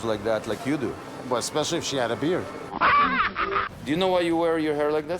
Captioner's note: monkey laughing